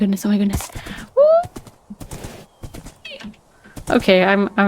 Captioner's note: stimming squeal that was mercifully cut-off by noise suppression